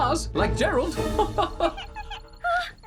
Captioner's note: chuckles